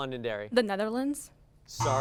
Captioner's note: buzz